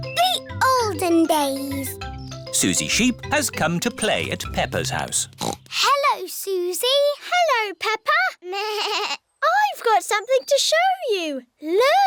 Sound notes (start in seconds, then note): 5.3 snorts; 8.7 bleats